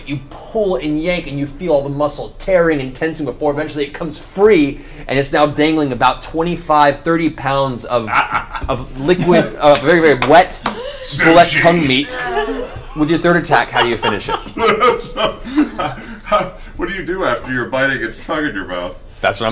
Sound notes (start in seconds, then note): 14.8 all laugh